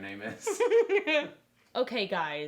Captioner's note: laughing